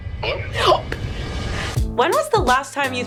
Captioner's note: inhales sharply